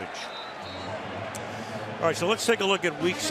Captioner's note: whistle